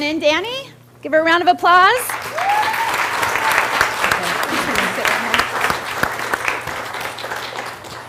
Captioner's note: cheer and Applause